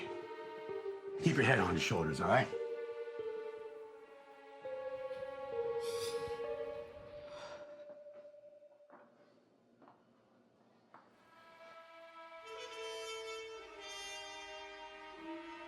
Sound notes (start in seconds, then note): 5.8 Eleanor sighs; 11.1 gentle music